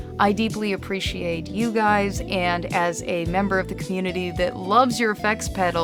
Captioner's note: none